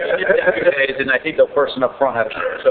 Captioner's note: laughing